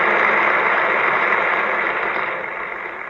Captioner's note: applause